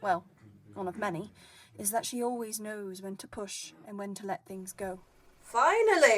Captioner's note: chatter fades